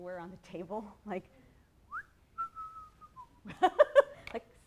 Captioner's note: whistles